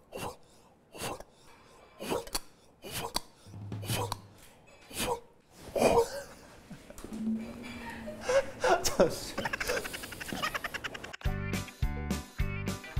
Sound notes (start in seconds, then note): 1.9 blowing